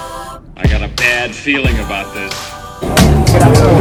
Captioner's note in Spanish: Voz en off